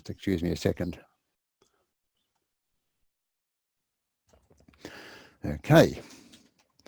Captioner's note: pause